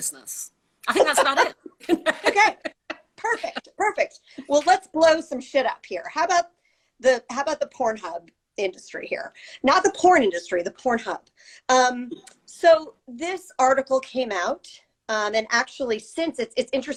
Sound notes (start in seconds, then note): 0.9 laughter